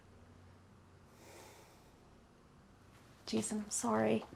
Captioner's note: sighing